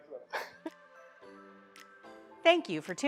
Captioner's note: laughs